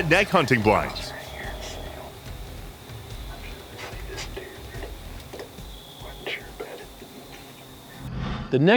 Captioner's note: whispering